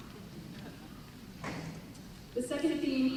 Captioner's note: laughter